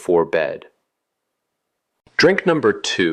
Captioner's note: pause